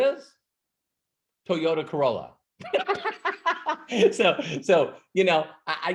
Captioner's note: laughs